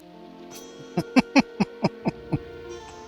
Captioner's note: laughing